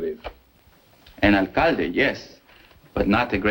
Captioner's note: spanish